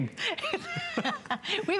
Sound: laughter

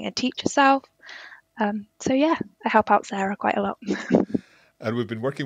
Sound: chuckles

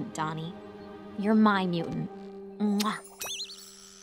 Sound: kissing

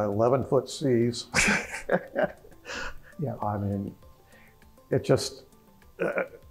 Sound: laugh

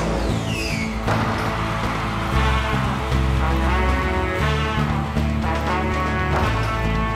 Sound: rocket roars; audience cheering; backboard clanks; backboard clanks

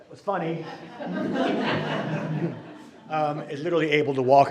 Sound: group laughing

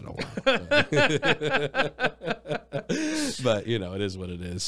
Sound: both laugh

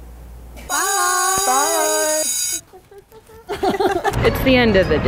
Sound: bell ringing

